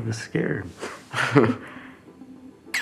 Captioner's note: Luke chuckles